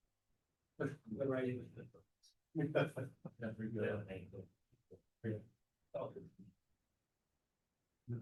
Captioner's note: background chatter